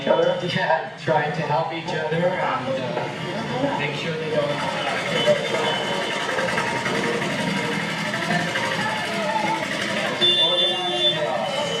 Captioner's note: sounds of the street, cars beeping